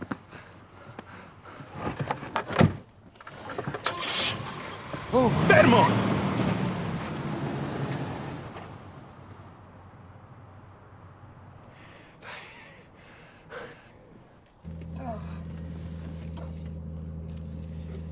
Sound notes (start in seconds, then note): 0.2 panting; 3.1 engines starts; 3.5 car door closes; 7.6 car leaving; 14.6 groaning